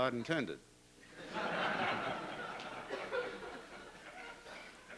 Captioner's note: laughter